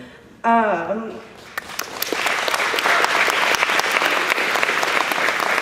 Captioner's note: applause